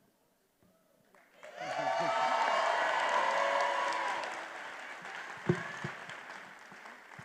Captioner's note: attendees applauding and cheering